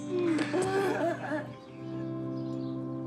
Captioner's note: laughs